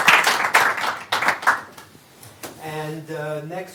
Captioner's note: applause